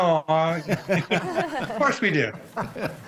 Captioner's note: group laughs